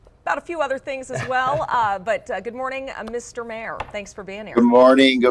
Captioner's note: chuckling